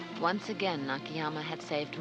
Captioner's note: Maggie Voiceover